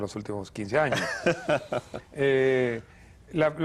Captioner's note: ríe